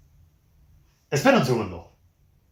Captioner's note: Spanish